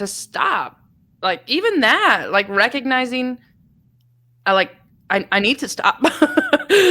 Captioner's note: laughs